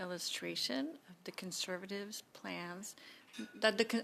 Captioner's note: speaking French